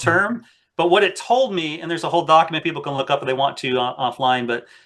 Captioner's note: laughs